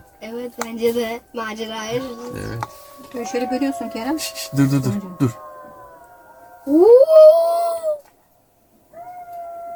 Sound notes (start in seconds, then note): 2.7 jackals howling; 5.8 jackals howling; 7.5 imitating jackals